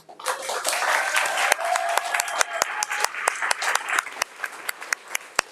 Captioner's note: audience applauding